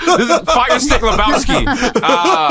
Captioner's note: laughter